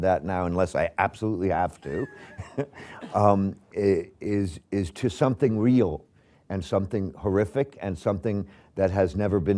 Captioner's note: laughs